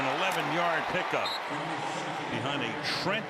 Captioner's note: whistle